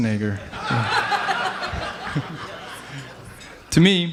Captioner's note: laughing